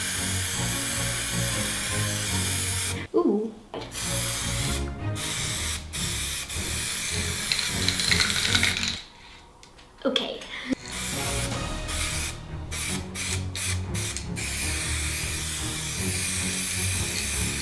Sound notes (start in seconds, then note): 3.9 spray paint oozing; 4.0 dramatic music; 10.8 dramatic music; 11.1 spray paint oozing